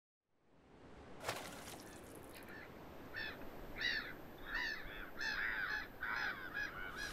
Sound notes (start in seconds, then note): 0.6 ocean sounds